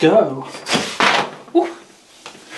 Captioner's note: rope slaps against the floor